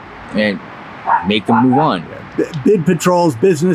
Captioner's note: dog barks